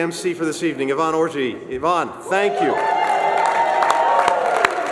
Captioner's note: applause